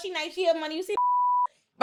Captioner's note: beep